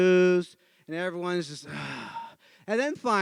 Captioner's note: sighs